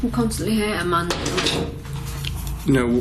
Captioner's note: loud clattering